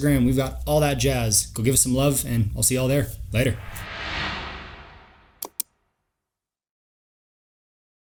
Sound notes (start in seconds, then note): 3.4 logo whooshes; 5.4 mouse clicks